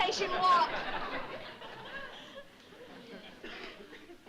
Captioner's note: laughter